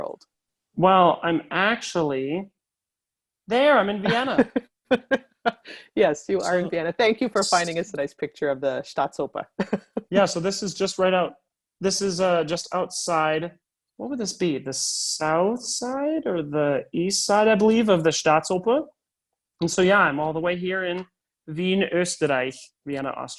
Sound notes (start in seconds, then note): 4.8 laughter